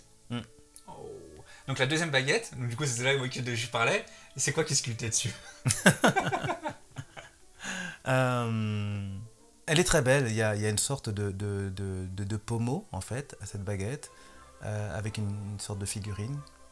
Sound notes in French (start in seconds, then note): 5.6 rires